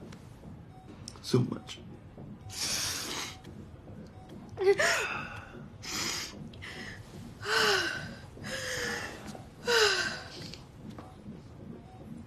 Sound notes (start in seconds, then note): 2.4 sniffling; 3.8 gasping; 5.6 sniffling, sighing; 7.7 breathing heavily